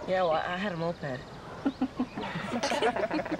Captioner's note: laughs